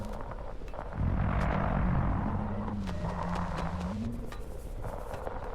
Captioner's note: unearthly sounds